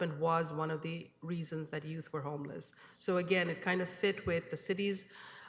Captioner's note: none